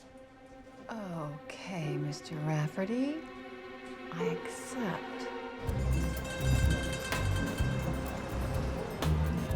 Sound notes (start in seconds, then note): 5.9 horn honking